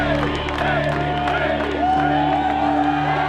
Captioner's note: crowd chanting; crowd cheering